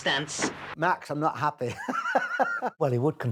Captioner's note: laughing